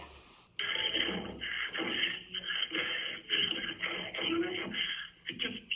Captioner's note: record mumbling and panting